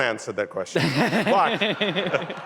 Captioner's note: laughter